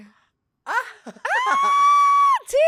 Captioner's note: laughs